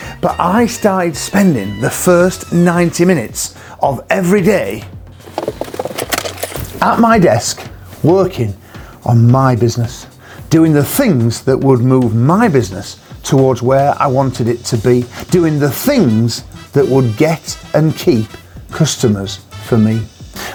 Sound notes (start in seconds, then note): 5.2 rapid footsteps